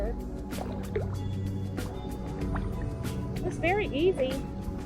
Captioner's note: water flowing